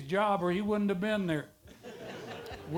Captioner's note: audience laughter